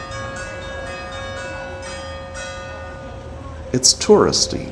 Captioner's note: church bells